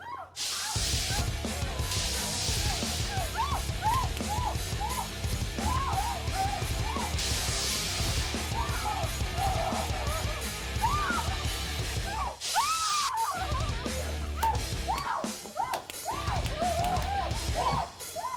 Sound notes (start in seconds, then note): 12.0 electric shock; 13.5 crying